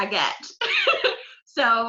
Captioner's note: laughs